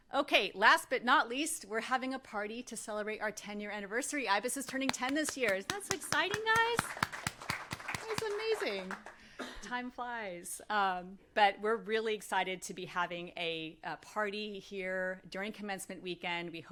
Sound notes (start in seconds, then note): 6.9 applause